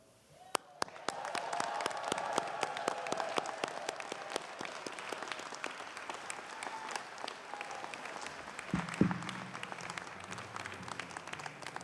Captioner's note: applause